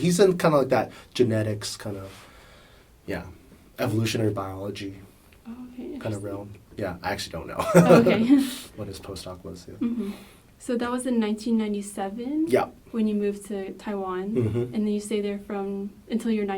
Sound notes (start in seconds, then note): 7.6 both laughs